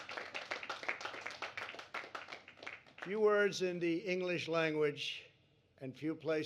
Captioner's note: applause